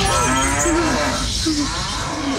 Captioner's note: Bellows